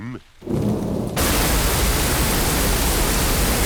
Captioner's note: thunder rumbling